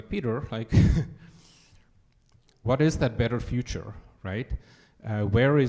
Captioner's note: chuckles